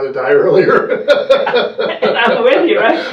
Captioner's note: laughter